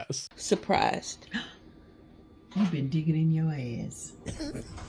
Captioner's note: gasps